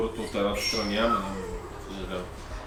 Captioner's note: dog whine